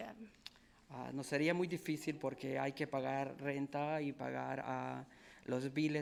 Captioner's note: speaking in foreign language